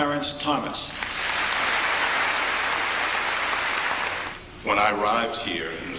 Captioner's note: congregation clapping